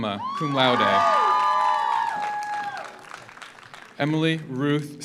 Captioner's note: audience cheers; audience applauds